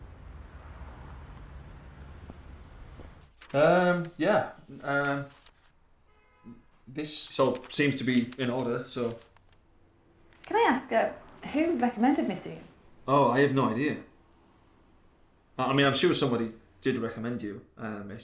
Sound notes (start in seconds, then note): none